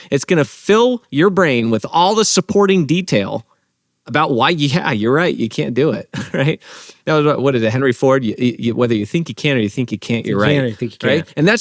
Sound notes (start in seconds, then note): 6.0 laughs